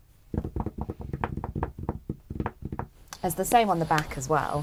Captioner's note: drums finger on the table